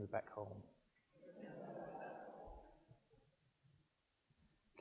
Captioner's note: audience laughs